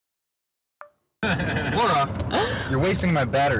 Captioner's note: laughing